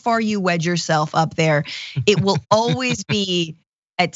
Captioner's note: laugh